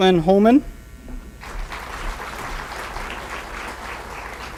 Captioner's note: applause